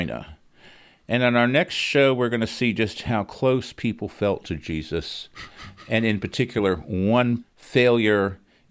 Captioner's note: laughs